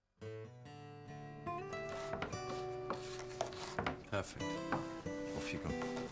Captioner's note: knife thudding; upbeat music